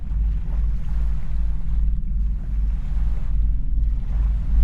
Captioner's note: water splashing